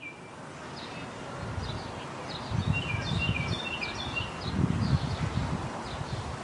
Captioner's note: bird chirping